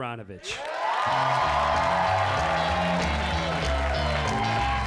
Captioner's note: audience cheering